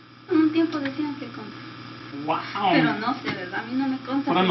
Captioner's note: conversing in Spanish